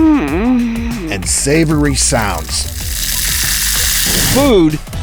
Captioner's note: moaning; sizzling